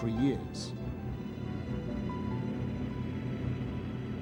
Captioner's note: plane humming